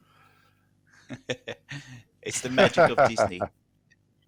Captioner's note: laughing